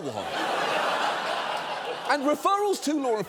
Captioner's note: audience laughing